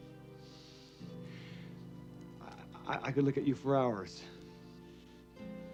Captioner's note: inhales